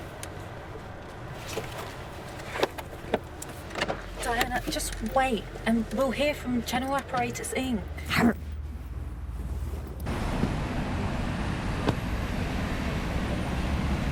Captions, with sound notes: - Diana, just wait, and we'll hear from General Apparatus Inc. (Diana growling)